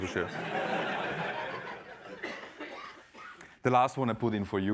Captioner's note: laughter